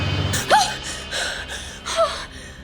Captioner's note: frightened gasps